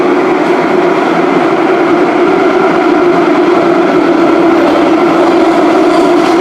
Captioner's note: braking